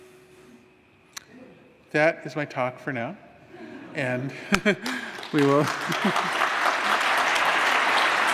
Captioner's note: applause